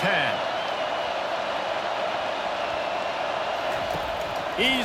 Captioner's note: cheering, applause